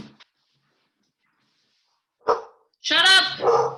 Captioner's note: dog barks